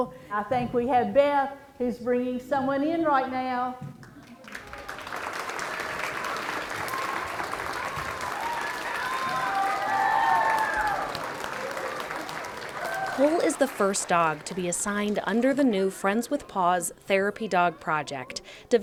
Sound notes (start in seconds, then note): 4.4 cheering